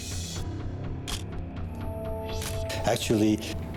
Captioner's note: camera shutter click